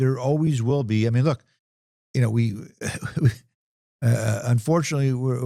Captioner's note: chuckling